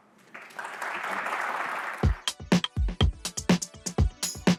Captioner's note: applause